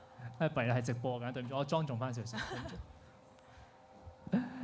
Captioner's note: laughs